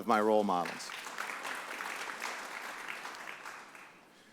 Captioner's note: audience applauds